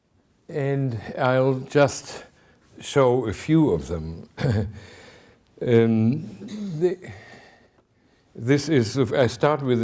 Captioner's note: clears throat